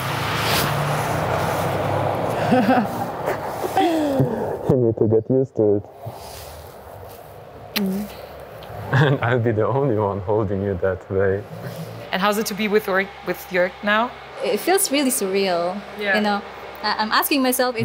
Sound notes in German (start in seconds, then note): 2.4 Glückliches Lachen; 7.7 Kussgeräusch